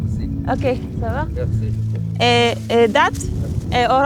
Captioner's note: both speak foreign language